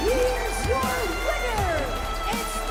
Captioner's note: crowd cheering